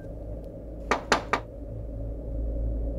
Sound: knocking

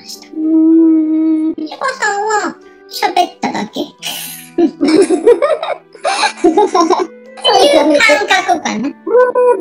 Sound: laughs

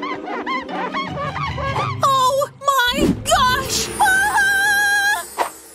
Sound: groans

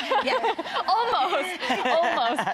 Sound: laughing

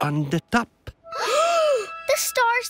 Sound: gasps

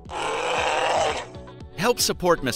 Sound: bear growling

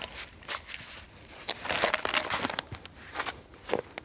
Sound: wood crunches

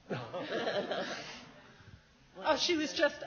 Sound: laughs

